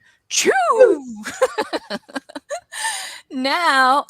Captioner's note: laughs